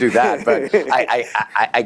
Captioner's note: laughter